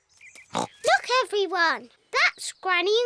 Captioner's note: oinks